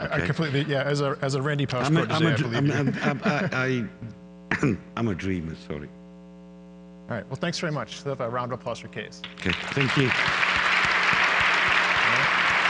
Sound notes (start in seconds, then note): 11.5 audience applause